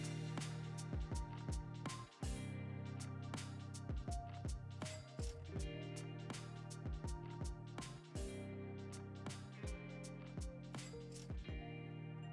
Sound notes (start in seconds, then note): none